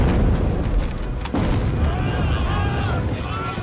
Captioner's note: shouting